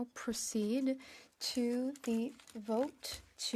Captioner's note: speaking French